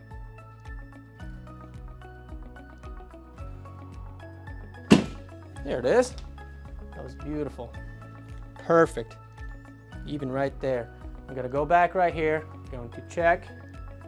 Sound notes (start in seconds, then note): 0.1 gentle upbeat music; 4.9 table thuds